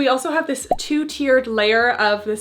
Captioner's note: graphics beeping